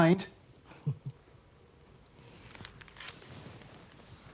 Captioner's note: Evelyn chuckling